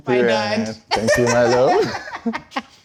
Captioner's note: laughs